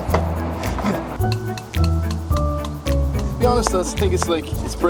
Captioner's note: tapping sounds with brush